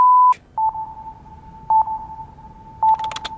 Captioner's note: beeping; beep